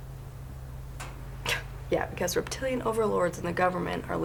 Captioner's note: scoffs